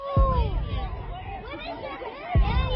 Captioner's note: crowd shouting